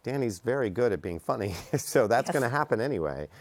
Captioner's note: laughs